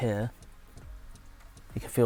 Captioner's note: haptic Feedback Noises